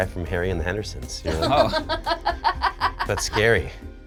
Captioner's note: laughs